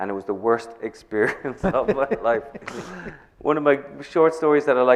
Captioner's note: chuckles